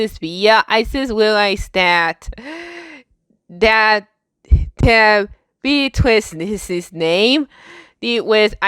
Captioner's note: breathes